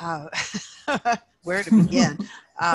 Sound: laughs

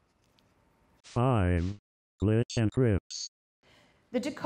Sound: robot Voice

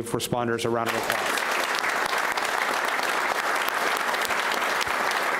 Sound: audience applauds

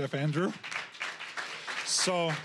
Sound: applause

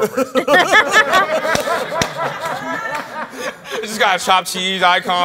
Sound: laughs

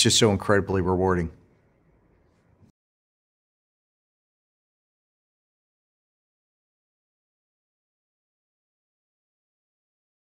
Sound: silence

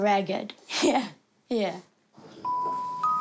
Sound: chuckles

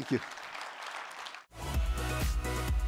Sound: applause

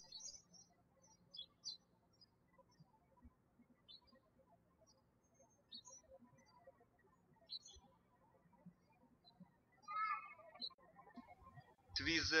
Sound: birds chirping

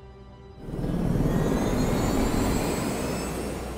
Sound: whirring

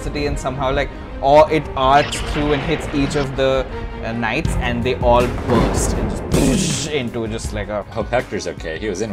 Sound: boom

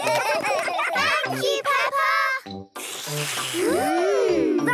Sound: all slurping

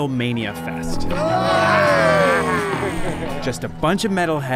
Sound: growls

